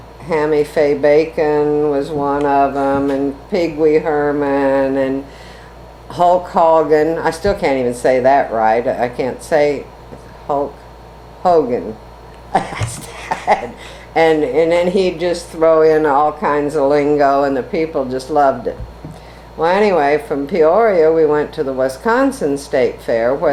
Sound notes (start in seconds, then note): 12.6 laughs